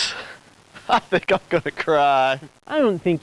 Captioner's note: laughs